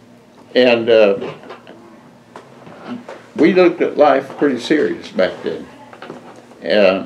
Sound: none

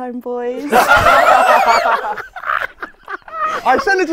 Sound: people laughing

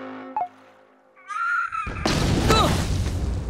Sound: squawking

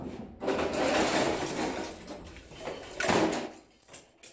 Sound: clattering

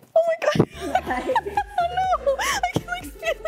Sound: laughing

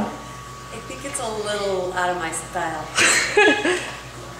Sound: laughs

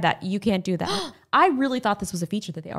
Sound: gasps

